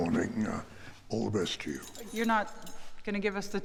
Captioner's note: keys jingling